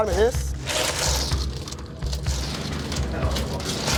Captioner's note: cubes rattle